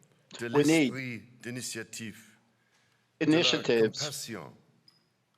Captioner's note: speaking French